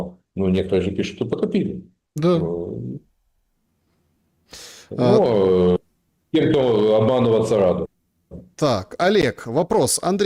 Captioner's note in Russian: фыркает